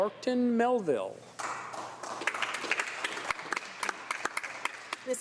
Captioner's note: applause